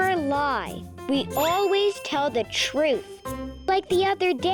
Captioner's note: bell dinging